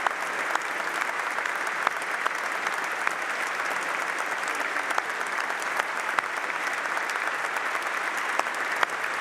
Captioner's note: applause